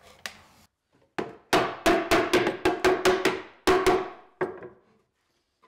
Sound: hammer banging

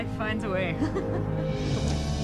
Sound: laughing

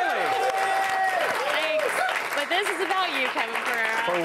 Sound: cheers

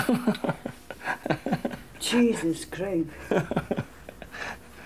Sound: laughing

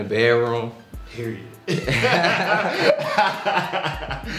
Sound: laughs

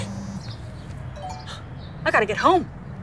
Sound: phone notification

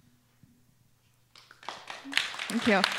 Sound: applause

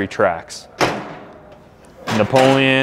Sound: metal chinking

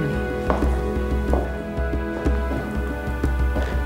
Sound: heels clack

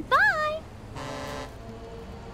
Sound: truck honks

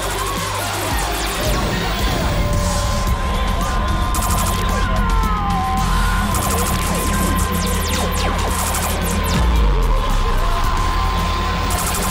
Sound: sound gets louder and buzzing comes back

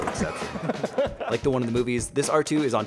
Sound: laughing

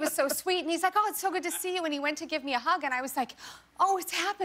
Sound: laughter

